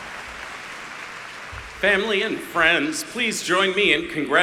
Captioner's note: applause